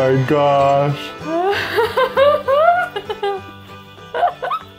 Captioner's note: laughing